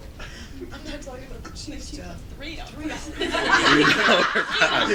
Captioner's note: laughter